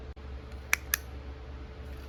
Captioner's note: click